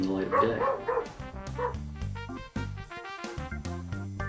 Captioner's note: dog barking